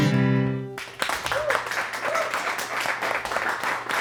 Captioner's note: cheers and applause